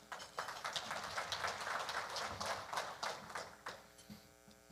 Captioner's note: audience applauding